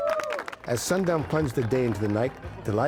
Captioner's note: cheering